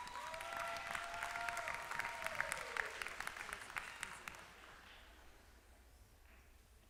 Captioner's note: applause